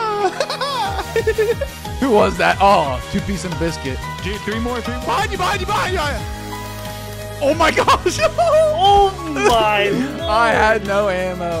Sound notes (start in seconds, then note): 0.0 laughing